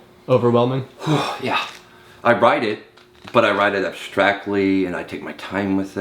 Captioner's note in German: seufzt